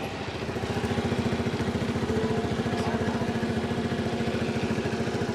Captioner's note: motor de motocicleta